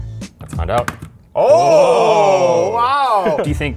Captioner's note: cheering